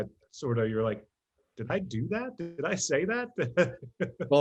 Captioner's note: laughs